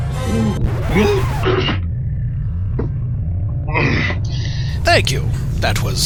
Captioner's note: record scratches, music stops